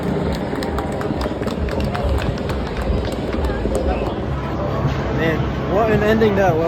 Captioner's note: last rounds of applause